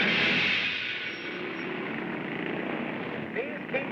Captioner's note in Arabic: هدير المركبات